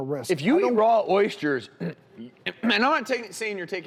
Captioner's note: clears throat